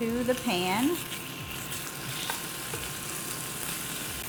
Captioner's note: pan sizzling